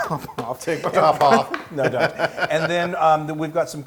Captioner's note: laugh